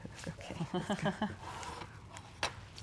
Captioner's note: laughs